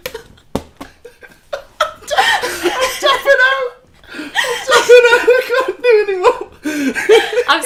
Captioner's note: laughter